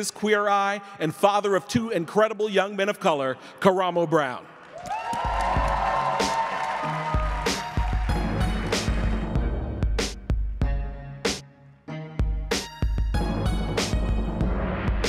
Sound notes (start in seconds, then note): 4.5 audience clapping and cheering; 8.7 upbeat music